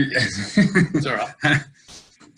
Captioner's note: laughter